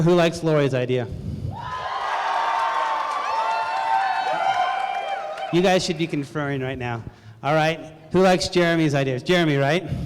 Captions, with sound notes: Who likes Lori's idea? [CROWD CHEERING] You guys should be conferring right now. All right. Who likes Jeremy's ideas? Jeremy, right?